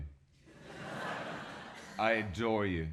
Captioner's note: audience laughs